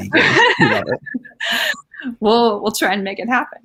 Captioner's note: laughing